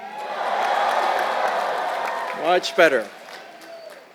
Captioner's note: applause